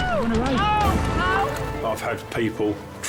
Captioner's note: person yelling